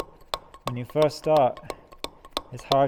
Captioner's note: metal hammering